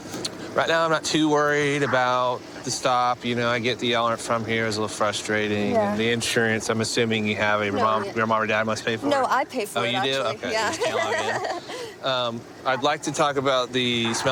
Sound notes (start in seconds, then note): 10.6 nervous laughter